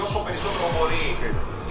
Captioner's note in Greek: ξεφυσάει